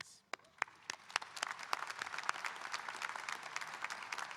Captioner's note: audience applauding